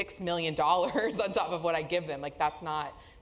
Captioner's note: laugh